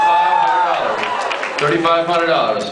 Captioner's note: cheers, applauds